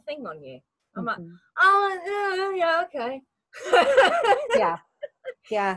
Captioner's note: laughs